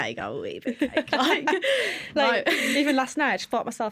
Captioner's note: laughter